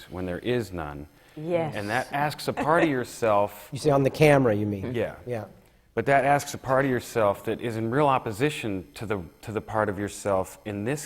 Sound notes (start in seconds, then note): 2.5 laughs